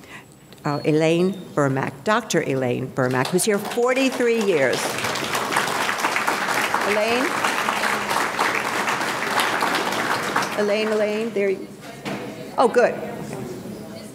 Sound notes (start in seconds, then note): 4.6 audience applauding